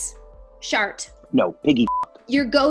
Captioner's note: beep